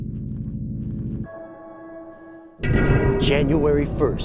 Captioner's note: bell tolling